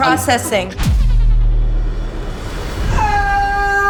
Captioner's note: whoosh